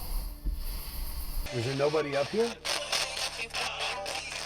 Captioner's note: spirit box scans; spirit box voices